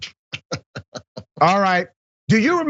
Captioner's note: laugh